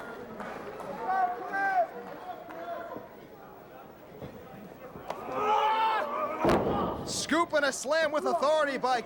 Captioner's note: crowd chatter